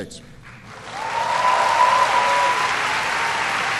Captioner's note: applause